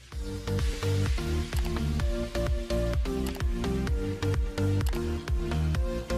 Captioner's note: fast-paced music; mouse clicking